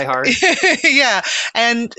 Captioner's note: laughing